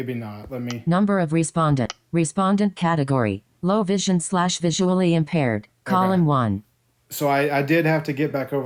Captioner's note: click